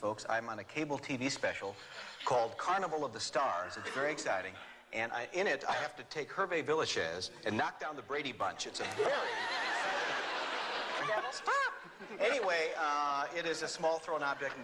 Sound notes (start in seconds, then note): 8.8 laughter